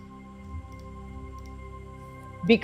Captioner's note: mouse clicking